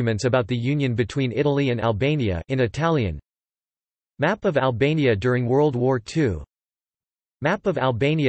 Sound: in Italian

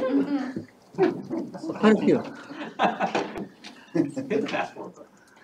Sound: all chuckling

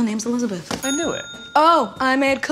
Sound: ding

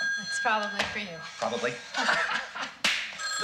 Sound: laughing

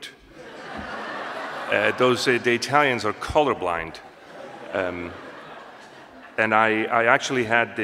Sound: laughter; more laughter

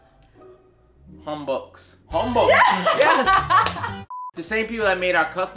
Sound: laughing

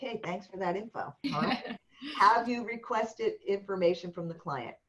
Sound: laughter

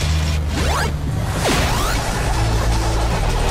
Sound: game beeping

